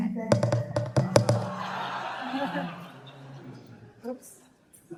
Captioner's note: laughter